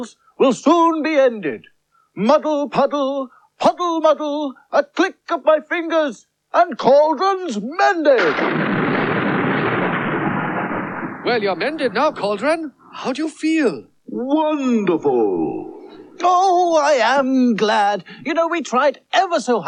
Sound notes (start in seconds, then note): 8.2 sound Of Thunder